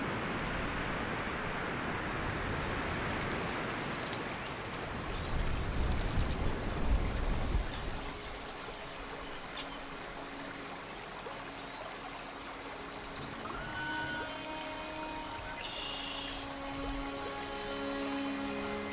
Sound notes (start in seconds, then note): 3.5 sounds of nature; 13.9 soft string music